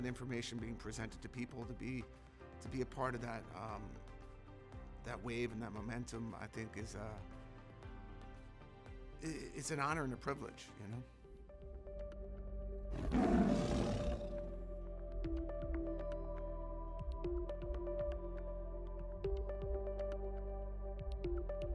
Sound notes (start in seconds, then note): 12.9 tiger growling